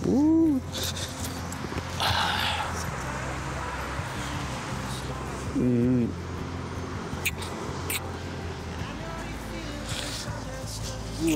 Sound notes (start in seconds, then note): 1.8 sighs and sniffles; 7.1 kisses smack